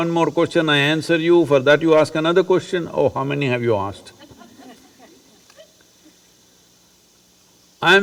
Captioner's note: laughter